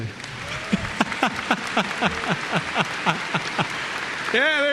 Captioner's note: applause; laughs